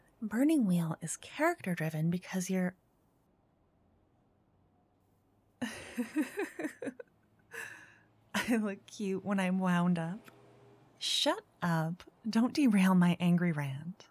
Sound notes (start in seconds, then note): 5.6 laughing